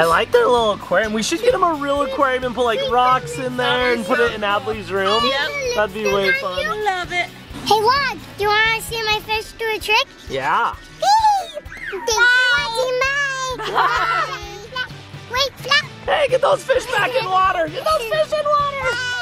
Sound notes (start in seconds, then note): 10.7 squeal